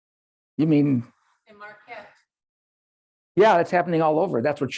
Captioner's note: speaking faintly